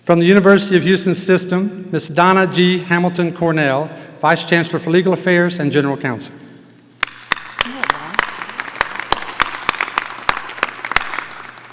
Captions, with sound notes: From the University of Houston System, Ms. Donna G. Hamilton Cornell, Vice Chancellor for Legal Affairs and General Counsel. (audience applauding)